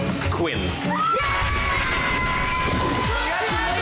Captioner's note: audience screams